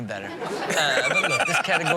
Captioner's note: Steelo laughs